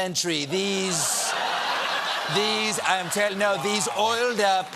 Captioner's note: laughter